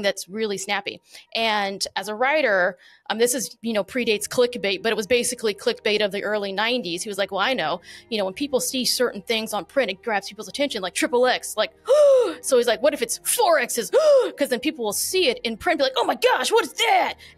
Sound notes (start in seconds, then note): 13.9 gasp